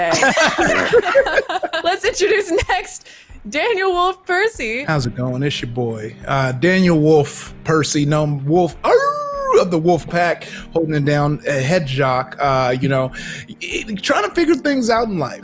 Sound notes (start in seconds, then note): 0.0 all laugh; 8.9 howls